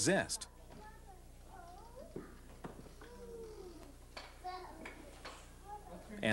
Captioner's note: people talking